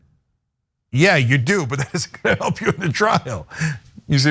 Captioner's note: laugh